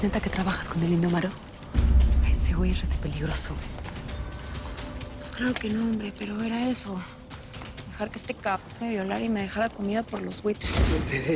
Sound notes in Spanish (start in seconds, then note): none